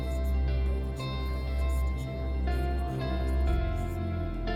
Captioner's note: whispers fade